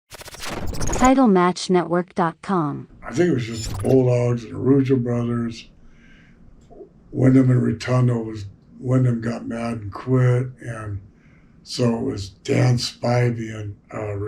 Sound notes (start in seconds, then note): 0.0 static squealing